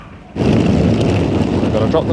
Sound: luggage wheels clattering

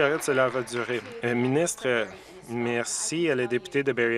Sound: some Applause

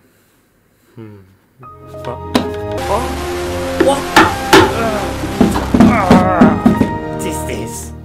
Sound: dumb noises

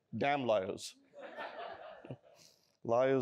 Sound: laughter

